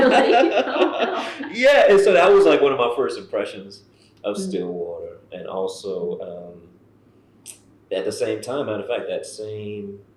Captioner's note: laughter